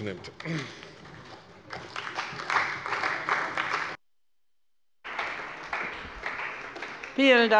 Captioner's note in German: Beifall bei der CDU und dem BÜNDNIS 90/DIE GRÜNEN